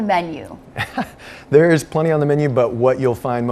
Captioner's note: laughs